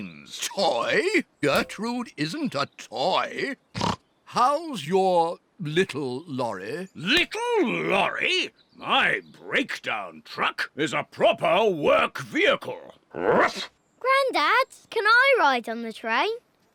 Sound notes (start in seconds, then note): 3.7 snorts